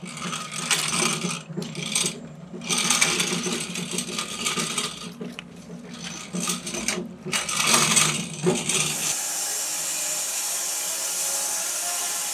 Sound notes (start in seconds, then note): 3.4 metal clanking; 8.6 saw whirring